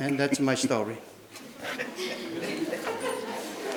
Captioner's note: laughing